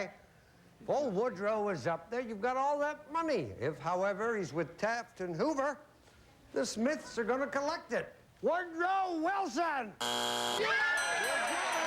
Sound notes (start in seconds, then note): 10.0 buzzer